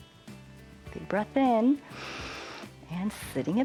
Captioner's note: inhales